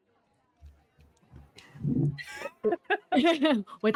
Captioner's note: giggling